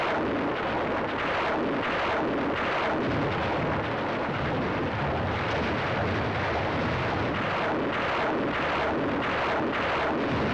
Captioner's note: sounds of explosions